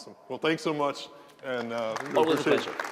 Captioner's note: applause